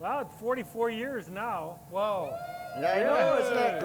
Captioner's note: audience cheers